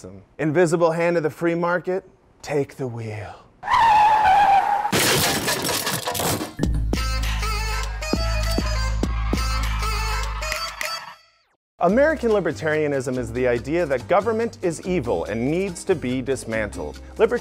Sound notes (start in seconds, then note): 3.6 tires squealing and car crash